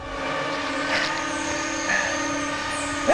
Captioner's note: breathing heavily